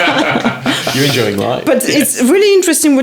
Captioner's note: laughing